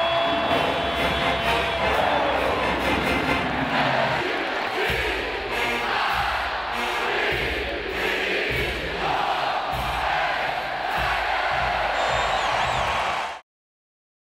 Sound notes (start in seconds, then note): 4.2 crowd cheers